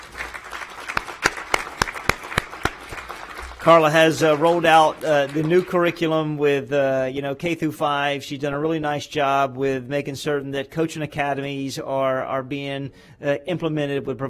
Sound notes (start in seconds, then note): 4.8 applause